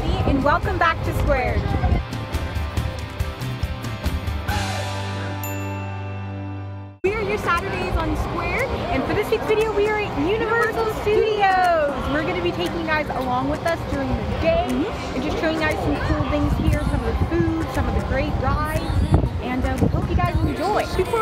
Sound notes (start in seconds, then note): 1.8 acoustic music; 5.4 ding